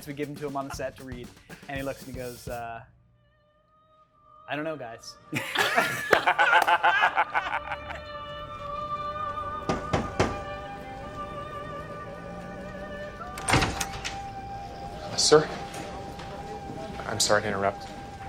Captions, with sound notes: We give them to him on the set to read and he looks at me, goes, "I don't know, guys." (opera music) (knock on door) (door opens) - Sir, I'm sorry to interrupt.